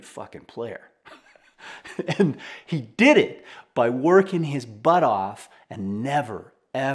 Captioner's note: laughing